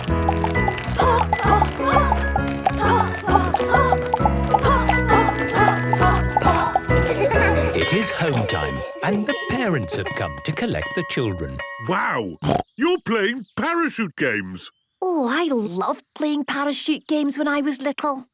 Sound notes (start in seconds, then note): 6.9 laughter; 12.4 snorting